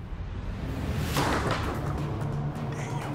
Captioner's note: whispering